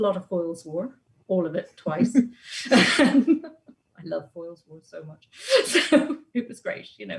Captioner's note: laughs